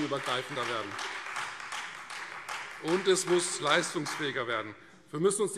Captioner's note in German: Beifall Freie Demokraten